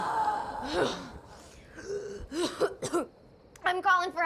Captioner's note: june coughing